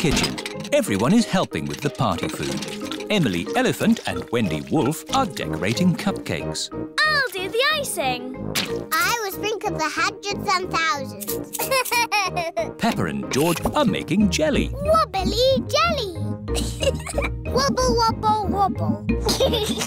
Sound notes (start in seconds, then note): 11.5 laughs; 16.5 giggles; 19.1 giggles